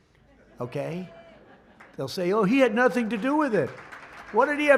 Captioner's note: laughter